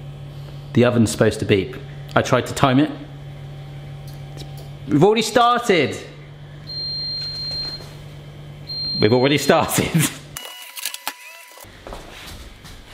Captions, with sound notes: The oven's supposed to beep. I tried to time it. We've already started. (oven beeping) We've already started.